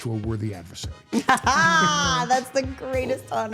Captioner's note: Steph laughing